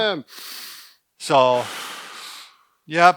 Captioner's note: exhales; inhales